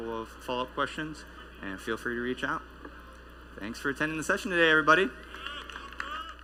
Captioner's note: applause